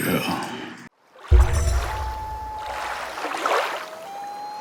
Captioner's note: water rushing, loon calling